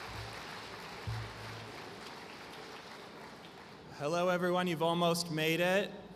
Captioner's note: applause